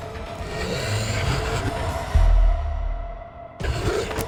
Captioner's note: vampire growls